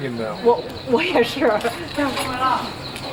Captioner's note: non-english speech